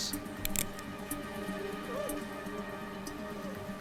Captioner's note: gun clicks